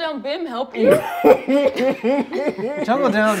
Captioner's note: laughing